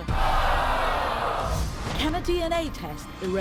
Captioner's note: audience groaning